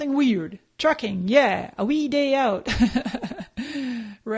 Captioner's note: laughs